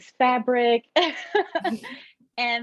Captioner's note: laughter